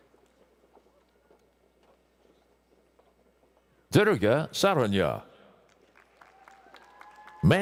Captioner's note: applause